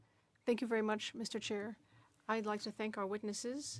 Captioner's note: speaking French